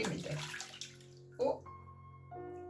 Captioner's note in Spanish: sonido de agua